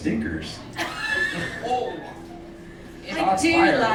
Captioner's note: laughing